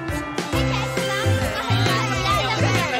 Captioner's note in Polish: muzyka świąteczna; rozmowy uczniów